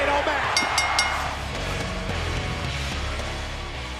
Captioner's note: bell rings